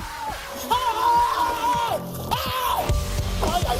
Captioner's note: screaming